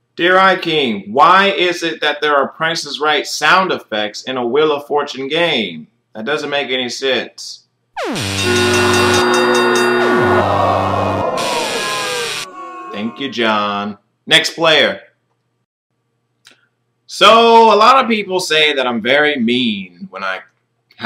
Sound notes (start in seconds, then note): 8.0 numerous TPiR sound effects